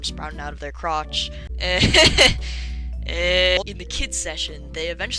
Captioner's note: nervous laughter